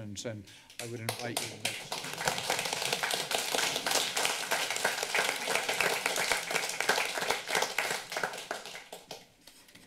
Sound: applause

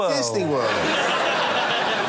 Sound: laughter

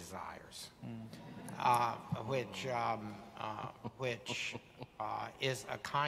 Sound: audience laughing

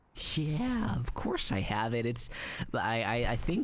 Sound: nervous

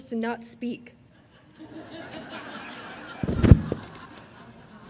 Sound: audience laughing

